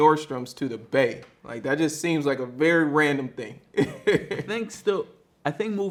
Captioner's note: laughs